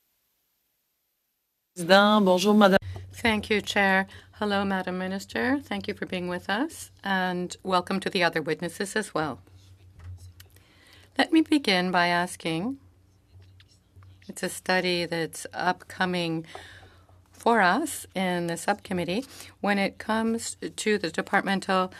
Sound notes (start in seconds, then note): 7.4 speaking in French